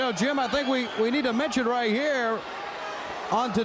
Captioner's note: crowd chatter